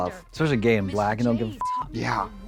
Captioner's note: beep